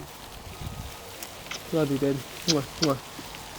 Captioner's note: grass rustling